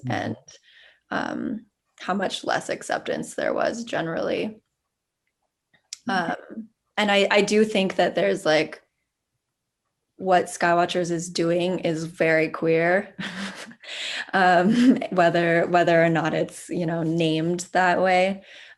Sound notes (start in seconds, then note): 13.2 chuckles